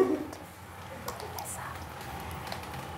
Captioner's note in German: flüstert